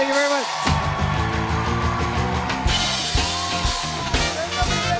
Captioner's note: cheers and applause